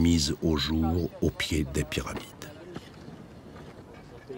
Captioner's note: Arabic spoken audio